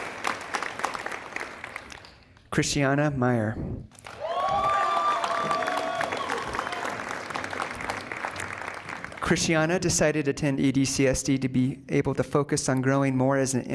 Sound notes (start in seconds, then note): 3.9 applause